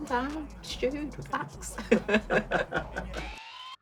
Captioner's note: laughs